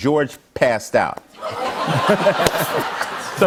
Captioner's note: laughter